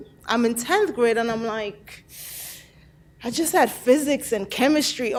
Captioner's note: inhales sharply